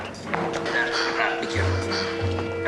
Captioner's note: both grunting